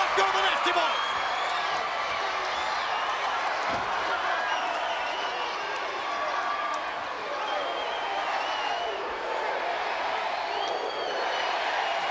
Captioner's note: crowd cheering